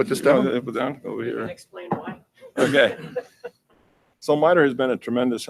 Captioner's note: laughs